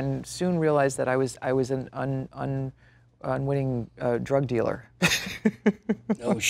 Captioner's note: laughs